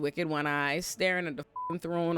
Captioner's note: beep